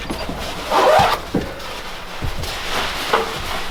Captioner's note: vest zipping